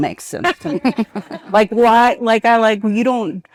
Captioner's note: participant laughing